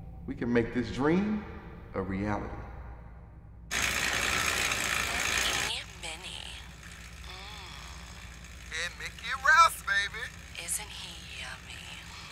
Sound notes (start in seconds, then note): 4.1 bike noises; 7.2 moans